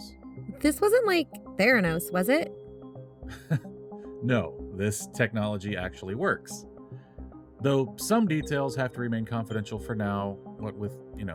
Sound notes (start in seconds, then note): 3.2 chuckle